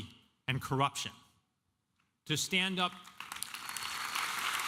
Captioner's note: applause